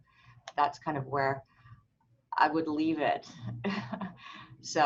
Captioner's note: laughs